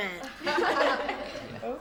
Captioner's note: laughing